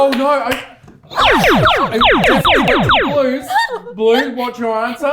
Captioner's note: laser noises